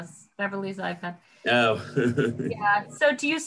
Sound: laughs

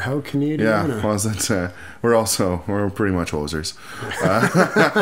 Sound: laughter

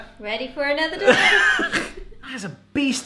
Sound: laughing

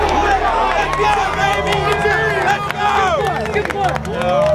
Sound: cheering

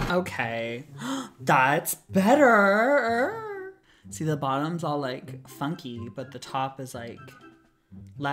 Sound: gasps

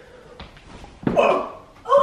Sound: grunts

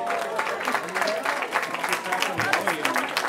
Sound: cheering

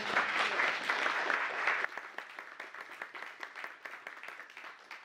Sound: applause

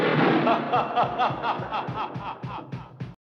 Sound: ming laughing evilly loud

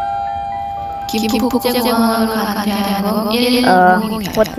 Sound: Korean

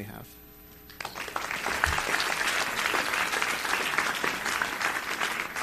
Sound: audience applauding

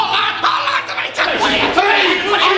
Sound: screaming

